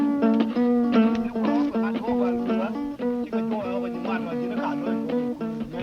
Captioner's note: non-english speech